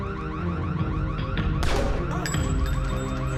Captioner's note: gun fires